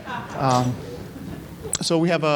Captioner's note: audience laughing